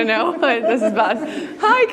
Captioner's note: laughs